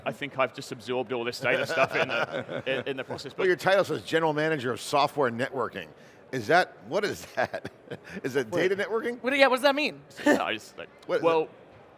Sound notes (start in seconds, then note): 1.6 laughing; 7.4 chuckling